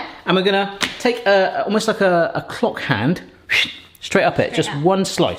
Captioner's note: whooshes